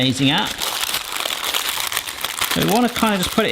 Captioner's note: paper crackling